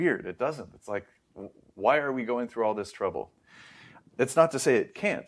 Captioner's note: inhales